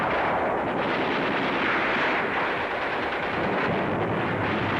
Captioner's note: guns firing